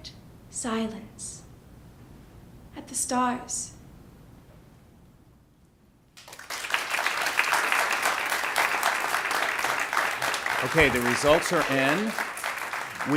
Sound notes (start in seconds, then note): 6.2 ^applause^